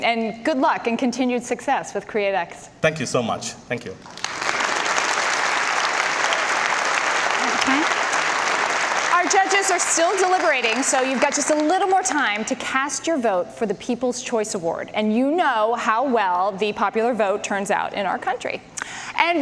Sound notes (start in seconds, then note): 4.0 audience applause